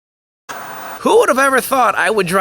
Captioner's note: TV Static